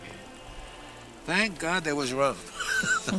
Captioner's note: laughs